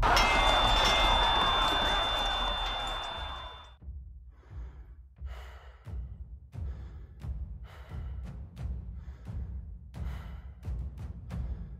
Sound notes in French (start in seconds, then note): 0.0 Sifflement; 4.6 Respiration; 6.4 Tambours